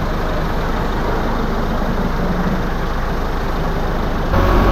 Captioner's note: sound of tractor and water